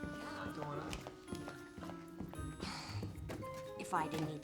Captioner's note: sighs